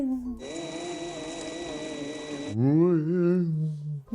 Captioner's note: drill whirring